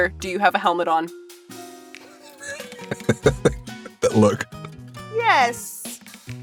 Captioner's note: chuckles